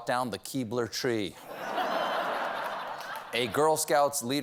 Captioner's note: laughter